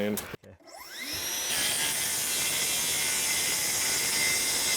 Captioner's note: saw whirring